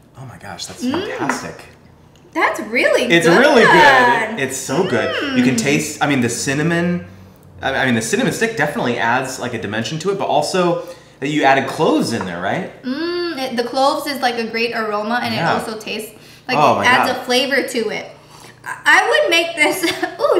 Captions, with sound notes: - Oh my gosh, that's fantastic. - That's really good. - It's really good. It's so good. You can taste, I mean, the cinnamon. I mean the cinnamon stick definitely adds a dimension to it, but also, you added cloves in there, right? - Mmm, the cloves is like a great aroma and it also tastes-- - Oh yeah. - Like it adds a flavor to it. (sipping) I would make this-- (coughs)